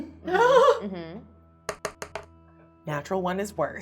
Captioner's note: laughing; die rolling